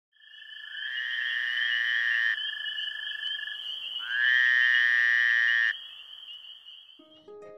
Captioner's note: frog sounds